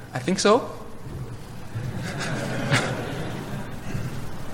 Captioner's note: laughter